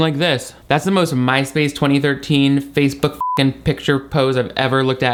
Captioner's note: beep